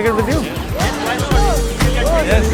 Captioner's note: chatter